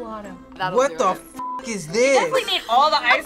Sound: beep

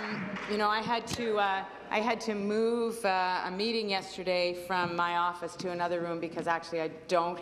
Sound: some Applause

